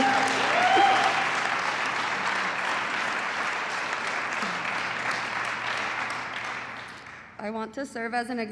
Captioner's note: applause